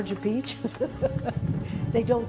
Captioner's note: laughs